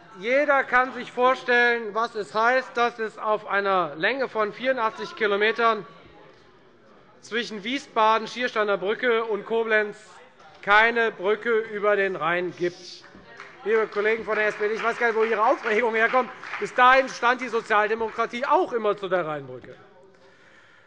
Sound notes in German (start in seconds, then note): 13.0 Beifall bei der FDP